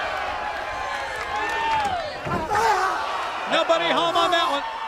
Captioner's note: crowd chatter